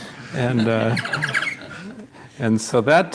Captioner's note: laughter